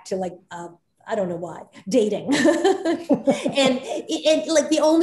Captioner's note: Soledad laughs